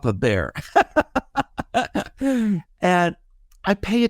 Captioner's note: laughing